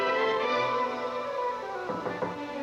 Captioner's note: knock on door